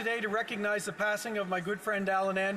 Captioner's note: some Applause